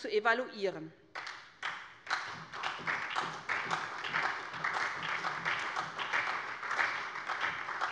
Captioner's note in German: Beifall bei der SPD